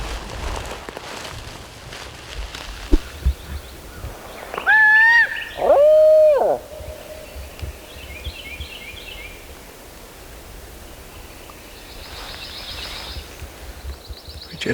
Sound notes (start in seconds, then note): 3.8 owl calls; 6.8 birds and faint gobble